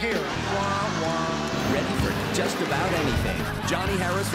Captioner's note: horn sounds